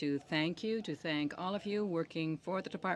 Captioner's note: speaking french